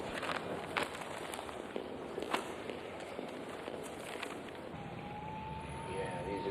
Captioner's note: paper crackling; feet clacking